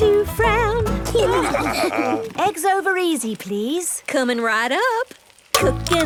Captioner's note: laughing